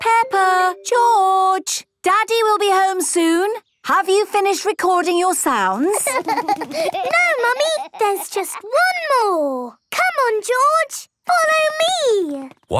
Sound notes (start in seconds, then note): 5.8 laughter